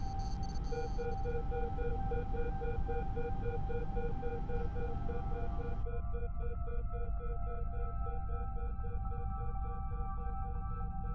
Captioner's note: device beeping